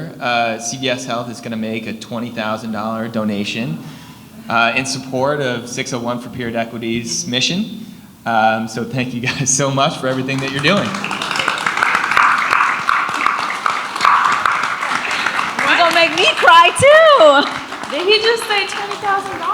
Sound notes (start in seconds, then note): 10.6 audience applauds; 17.2 audience applauds